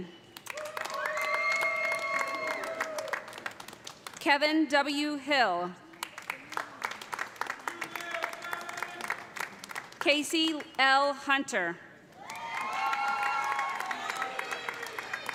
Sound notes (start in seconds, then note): 0.4 cheers and applause; 5.8 applause; 12.1 cheers and applause